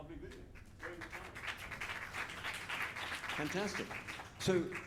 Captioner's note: audience clapping